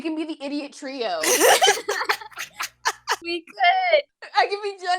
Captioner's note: laughter